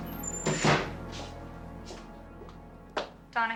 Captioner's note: door slamming